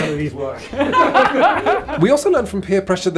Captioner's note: all laughing